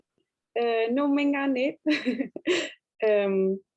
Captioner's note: speaking Greenlandic